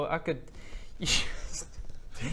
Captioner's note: laughs